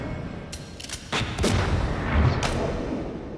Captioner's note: gunshot